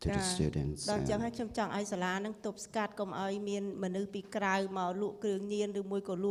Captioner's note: speaking foreign language